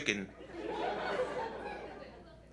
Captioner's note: laughter